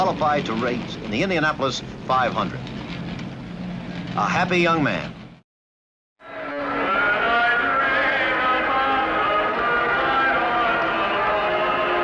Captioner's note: applause